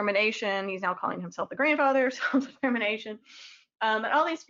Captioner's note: chuckles